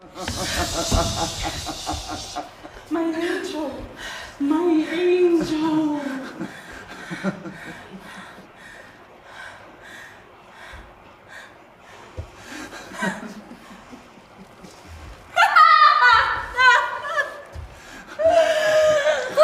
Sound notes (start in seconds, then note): 0.0 breathing. Laughter; 4.0 breathing; 6.2 laughter